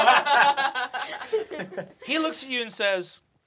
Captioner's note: laughter